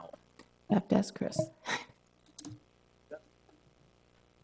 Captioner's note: chuckles